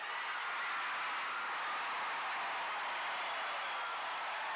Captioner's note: crowd cheers